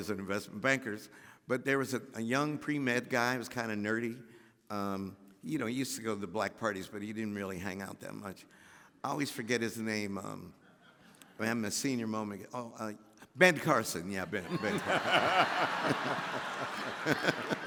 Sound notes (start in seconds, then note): 11.0 audience laughs; 14.4 all laughing